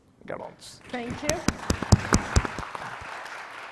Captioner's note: audience clapping